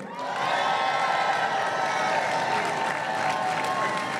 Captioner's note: crowd cheering and applauding